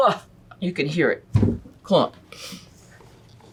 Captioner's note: thud sound